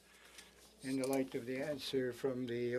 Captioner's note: speaking French